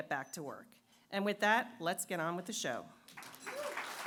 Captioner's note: applause